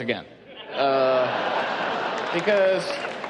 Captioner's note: laughing